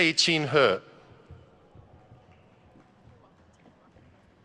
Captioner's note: none